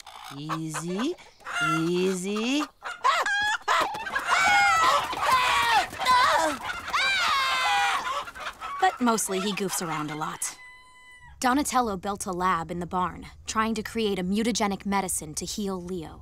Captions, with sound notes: Easy, easy. [screaming] But mostly he goofs around a lot. Donatello built a lab in the barn, trying to create a mutagenic medicine to heal Leo.